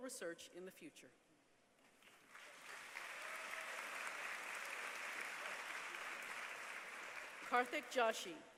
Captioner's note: applause